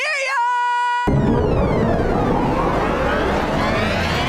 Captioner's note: chimes